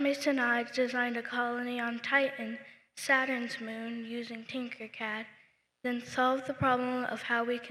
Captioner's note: none